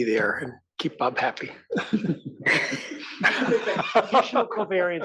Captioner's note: laugh